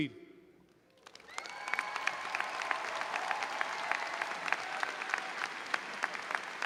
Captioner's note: audience cheering and applauding